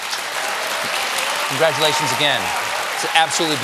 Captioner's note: cheers and applause